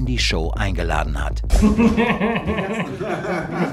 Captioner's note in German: Lachen